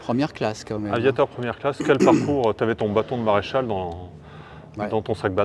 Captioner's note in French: raclement de gorge